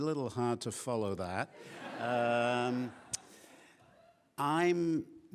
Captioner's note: laughing